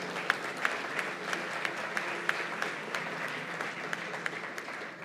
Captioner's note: applause